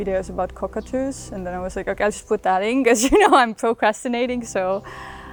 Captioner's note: laughs